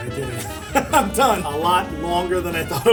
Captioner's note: chuckling